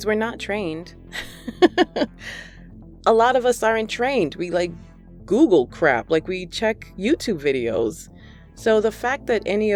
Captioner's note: laughter